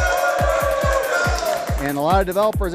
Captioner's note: applause